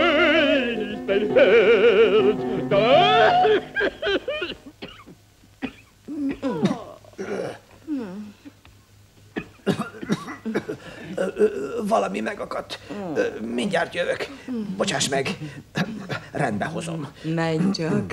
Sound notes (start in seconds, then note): 2.8 hacking cough; 9.3 coughs